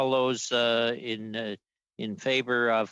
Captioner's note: speaking French